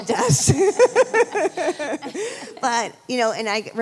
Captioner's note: laughing